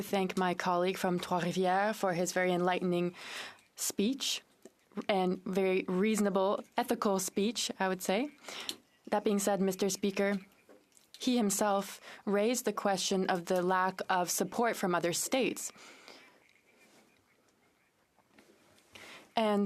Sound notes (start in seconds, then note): 3.2 speaking in French